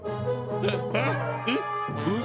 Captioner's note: grunting